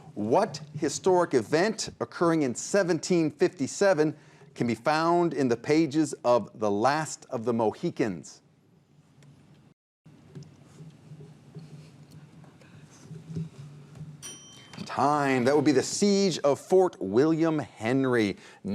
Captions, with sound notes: What historic event occurring in 1757 can be found in the pages of "The Last of the Mohicans"? (ding) Time. That would be the siege of Fort William Henry.